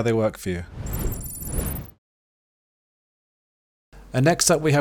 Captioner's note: digital beeping